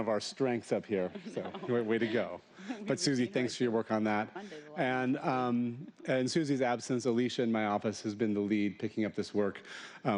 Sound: laughter

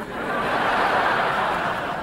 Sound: laughing

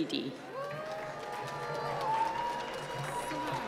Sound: applause

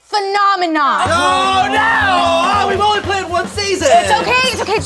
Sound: 𝘢𝘳𝘨𝘶𝘪𝘯𝘨

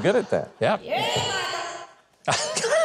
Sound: echoed voice; laughing

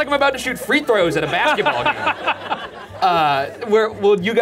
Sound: laughing

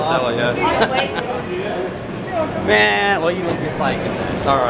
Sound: laughs

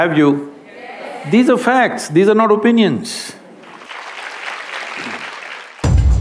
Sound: applause

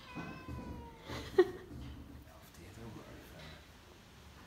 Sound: assistant giggles

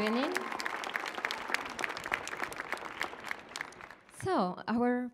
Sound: applause

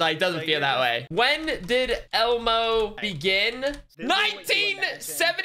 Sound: keyboard sounds

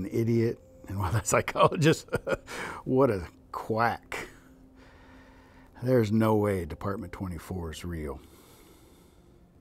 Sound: laughs

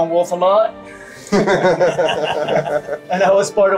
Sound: everybody laughing

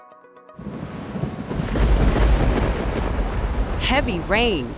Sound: rain and thunder

